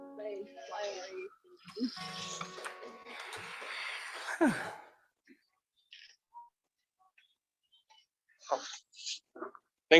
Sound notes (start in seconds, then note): 0.2 faintly speaking; 4.4 singer exhales